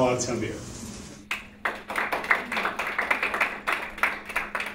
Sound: audience applauds

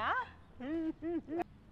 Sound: humming with excitement

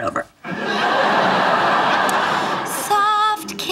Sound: audience laughing

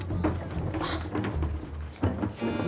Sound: grunts

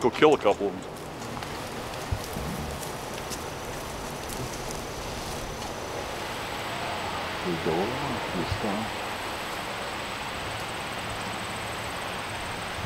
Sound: wind

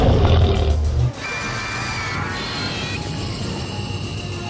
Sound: roars

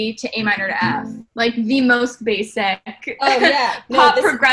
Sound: chuckles

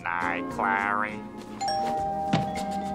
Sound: doorbell ringing

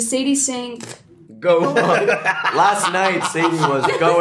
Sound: laughs

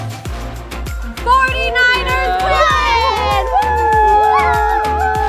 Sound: cheers

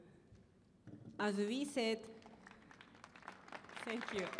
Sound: applause

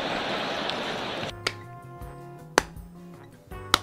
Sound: slow clap

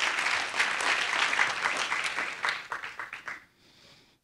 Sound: audience applauding

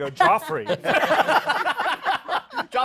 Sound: laughter

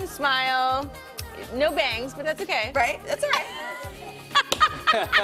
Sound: laughter

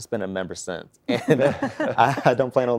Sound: laughter

